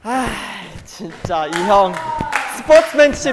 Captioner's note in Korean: 한숨